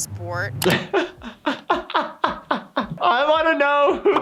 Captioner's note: laughs